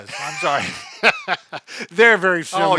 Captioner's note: laughs